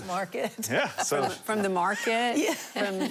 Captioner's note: laughing